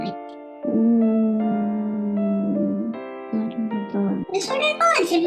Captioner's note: quietly